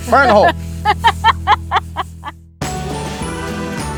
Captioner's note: laughing; upbeat music